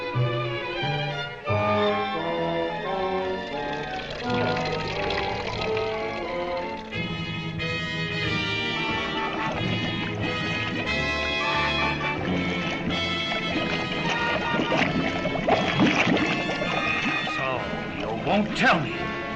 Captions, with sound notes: (lava splattering) (lava bubbling) So you won't tell me?